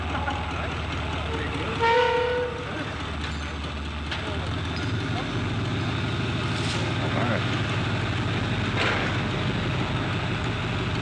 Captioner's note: the sound of an engine, inaudible dialogue and background construction noise